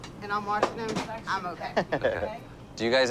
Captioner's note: laughs